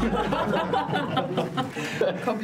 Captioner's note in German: lautes Gelächter